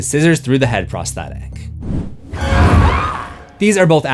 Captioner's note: screams